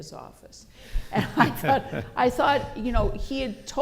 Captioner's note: laughter